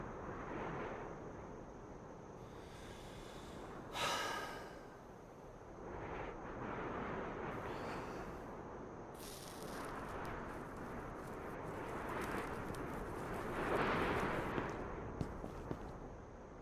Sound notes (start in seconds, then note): 2.4 breathes deeply; 9.2 cigarette hisses; 12.5 strong wind blows